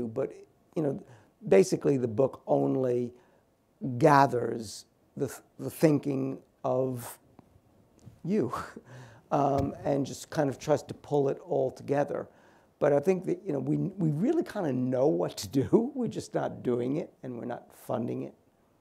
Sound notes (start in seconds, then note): 8.5 laughs